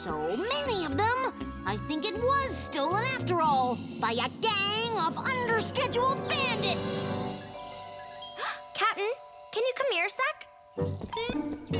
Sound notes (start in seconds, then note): 6.5 electronic buzzing; 7.9 gasps